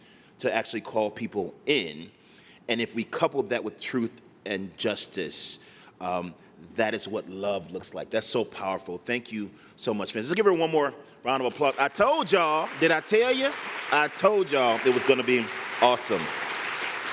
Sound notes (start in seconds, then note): 11.4 applause